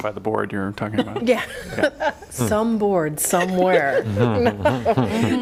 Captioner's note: laughter